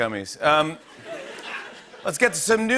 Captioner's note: laughter